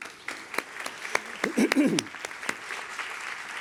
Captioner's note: applause